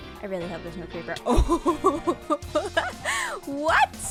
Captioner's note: nervous laughter